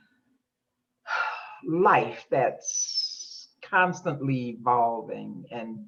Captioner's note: sighs